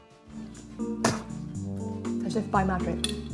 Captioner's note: mellow music; spits loudly